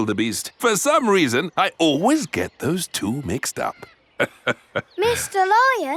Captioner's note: laughs